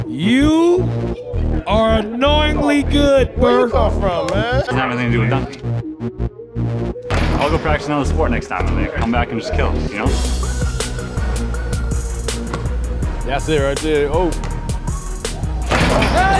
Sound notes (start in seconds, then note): 7.1 ball dunking; 10.2 upbeat music; 12.4 ball thudding; 14.4 ball bouncing; 15.6 ball dunking